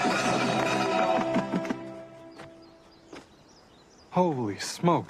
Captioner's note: clanging and drumming faster; clanging and drumming stops